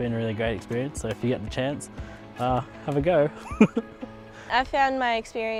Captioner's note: laughs